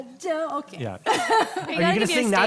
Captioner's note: laughing loudly